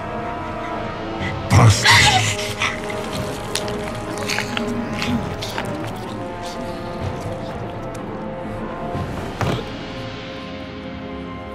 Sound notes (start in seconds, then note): 1.6 chewing; 1.8 speaks in foreign language